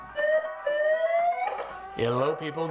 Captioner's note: alarm sounds